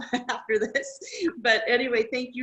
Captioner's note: laughs